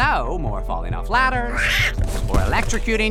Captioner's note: thump